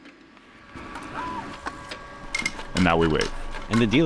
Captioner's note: Deckmate whirring